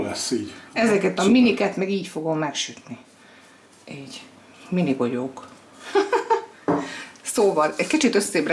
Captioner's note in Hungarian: nevetés